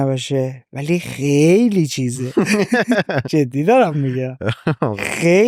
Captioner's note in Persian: خنده